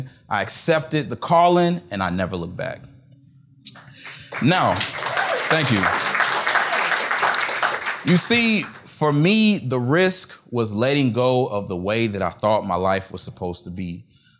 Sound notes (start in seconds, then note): 3.7 applause